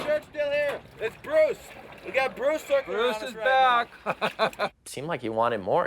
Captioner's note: laughs